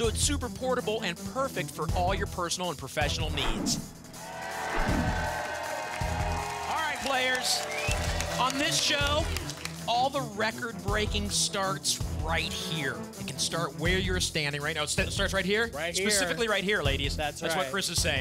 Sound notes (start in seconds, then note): 4.3 applause